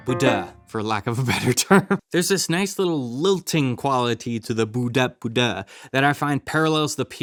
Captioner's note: chuckles